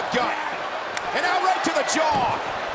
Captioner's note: blow thudding